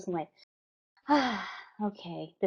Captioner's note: sigh